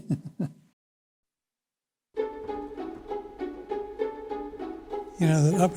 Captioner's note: laughing